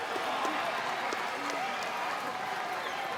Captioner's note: crowd cheers